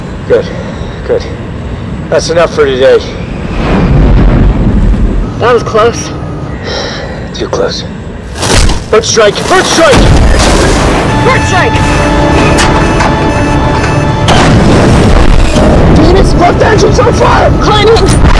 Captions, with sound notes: Good. Good. That's enough for today. That was close. [Sighs] Too close. Bird strike! Bird strike! Bird strike! [Alarm blaring] Phoenix, left engine's on fire! Climbing.